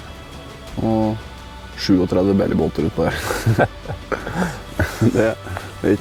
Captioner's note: giggle